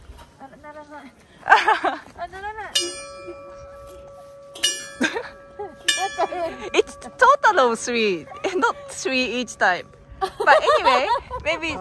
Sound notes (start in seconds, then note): 1.5 laughs; 2.7 ding; 10.2 laughs